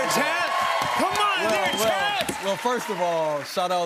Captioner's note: cheers and applause